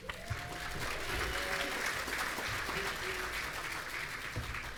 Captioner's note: audience applauding